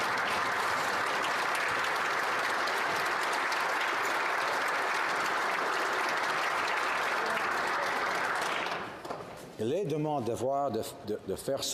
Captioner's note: applause